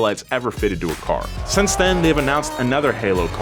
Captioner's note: car engine roaring